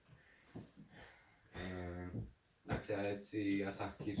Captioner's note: sighs, looks at his notes